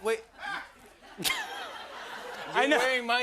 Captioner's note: laughter